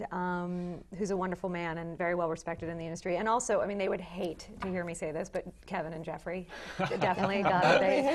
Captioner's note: laugh